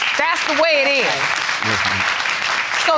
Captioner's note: audience clapping